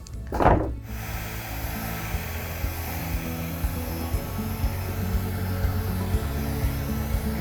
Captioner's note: soft acoustic music; blow dryer blowing